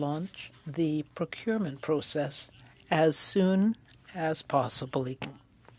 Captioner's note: speaking French